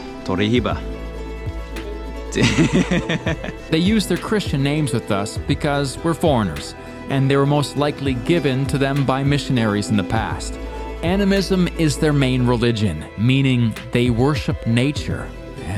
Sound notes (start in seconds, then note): 0.2 speaking in foreign language; 2.3 laughing